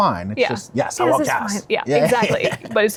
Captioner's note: laughs